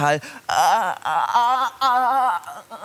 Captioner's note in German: würgt